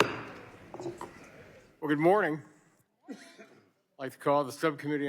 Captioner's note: gavel falls